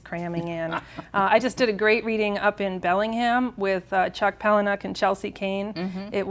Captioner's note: chuckles